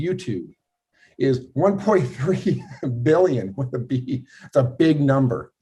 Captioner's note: laughing